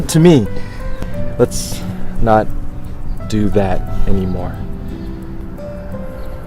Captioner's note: enunciating